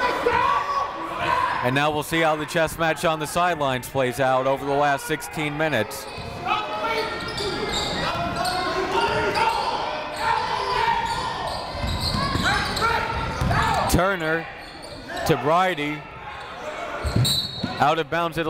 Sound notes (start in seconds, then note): 6.7 coaches yelling; 6.7 crowd talking; 17.2 whistle blows